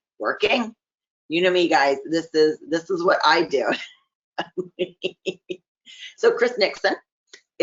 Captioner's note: laughing